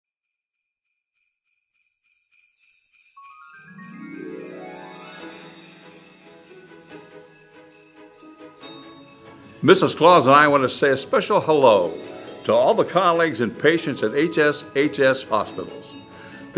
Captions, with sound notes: (bells jingling) (bright holiday music) - Mrs. Claus and I wanna say a special hello to all the colleagues and patients at HSHS Hospitals